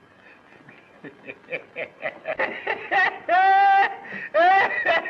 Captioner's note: Slim laughing